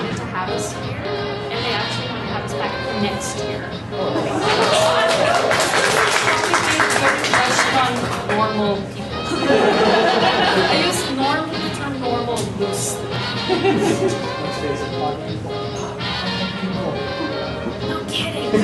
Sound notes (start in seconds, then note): 4.5 applause; 13.4 laughter; 18.0 laughter